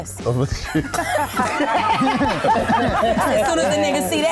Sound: all laugh

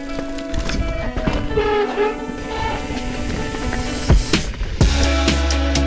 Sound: upbeat lo-fi music; horn honks softly; upbeat lo-fi music continues

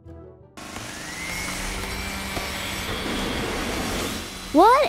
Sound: construction Noise

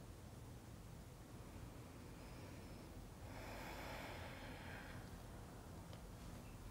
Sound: breathing

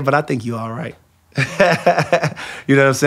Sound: laughs

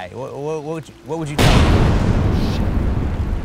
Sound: thunder claps

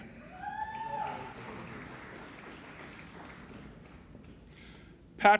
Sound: applauding and cheering

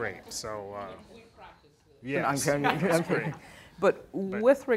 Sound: speaking off-mic

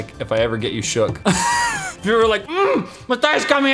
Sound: grunt

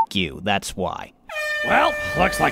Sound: air horn

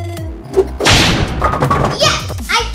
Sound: whip cracking

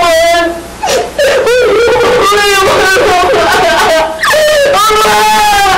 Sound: crying

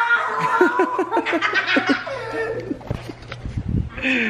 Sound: laughing

